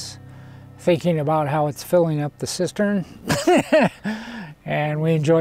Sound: laughs

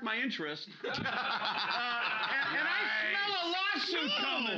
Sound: loudly laughing

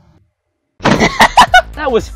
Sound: laughter

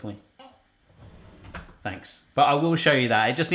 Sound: door clicking closed

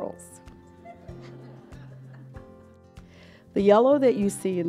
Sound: giggling

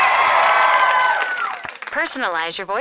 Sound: cheering; on phone

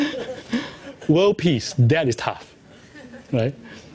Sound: laughs

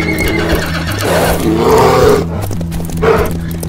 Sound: bear growls; running hoofsteps

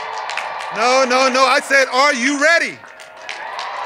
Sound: cheers and applause

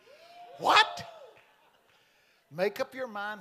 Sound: congregation cheering

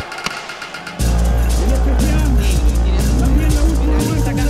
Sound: murmurs

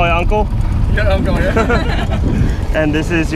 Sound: laughing

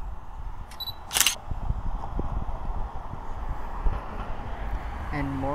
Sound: camera shutter clicks

